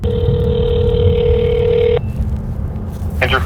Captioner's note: phone ringing